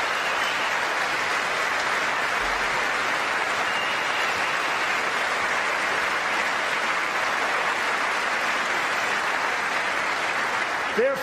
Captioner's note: applause